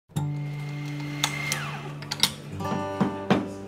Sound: machine whirring

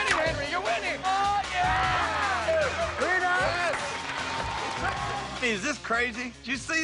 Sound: cheers and applause

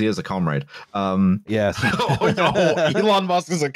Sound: laughs

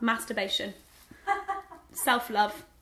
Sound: laughing

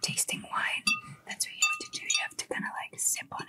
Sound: glass clinking

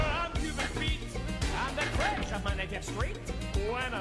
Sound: metal slamming

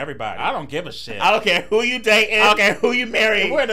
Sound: laughing

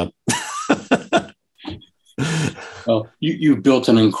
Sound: chuckles

